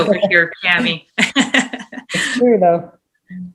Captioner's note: laughs